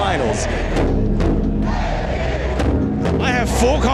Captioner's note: crowd chanting